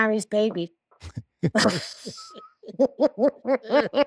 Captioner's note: laughing